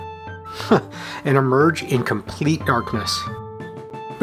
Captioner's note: chuckle